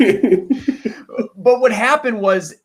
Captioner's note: laughing